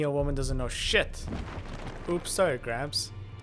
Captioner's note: a pile of books shatter